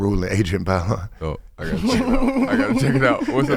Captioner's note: laughing